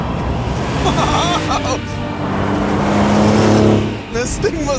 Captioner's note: laughs